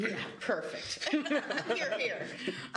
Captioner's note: laughing